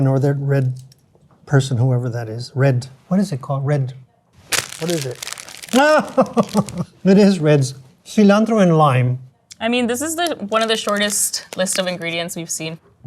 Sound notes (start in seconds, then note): 5.7 laughs